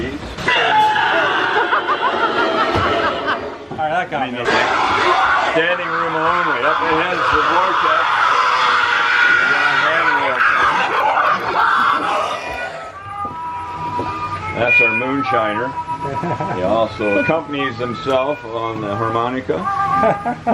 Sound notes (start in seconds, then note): 0.4 screaming and laughing; 8.8 screaming